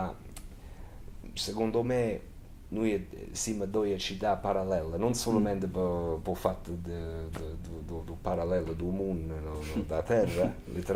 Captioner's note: Risata; laughter